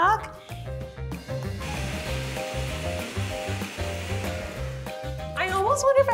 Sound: upbeat music; blender whirring

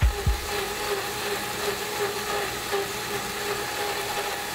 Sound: mixer whirring

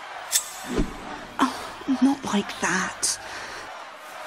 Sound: sighs

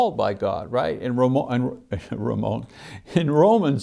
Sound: chuckles

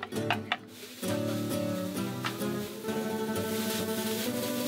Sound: sizzling

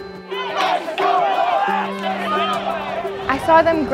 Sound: crowd yelling

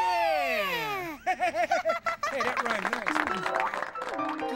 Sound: chuckling, audience applauds

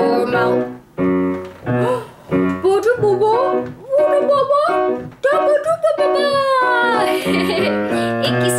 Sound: laughter

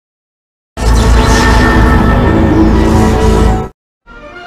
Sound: laboratory and electricity sounds repeat again; rousing fanfare plays

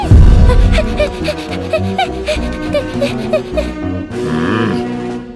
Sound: panting

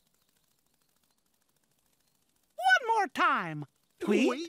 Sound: flapping

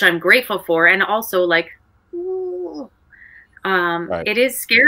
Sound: groans painfully

